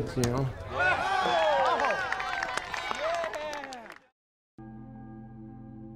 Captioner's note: crowd cheering; pensive music